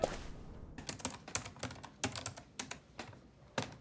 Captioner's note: typing